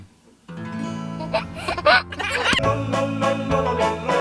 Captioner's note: laughing; playful music